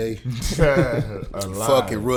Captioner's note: laughing